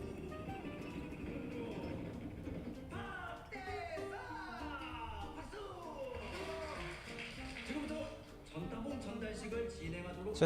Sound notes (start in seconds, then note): 0.0 drumroll; 6.1 applause